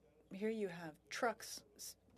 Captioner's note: speaking French